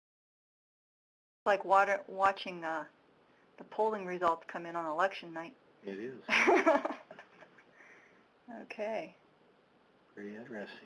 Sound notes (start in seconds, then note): 6.3 chuckling